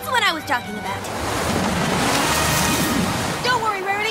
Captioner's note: wind blows